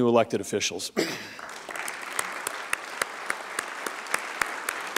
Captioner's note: applause